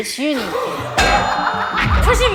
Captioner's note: wham!